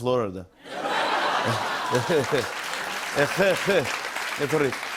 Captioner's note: laughter; applause